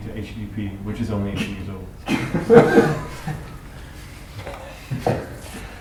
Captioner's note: laughter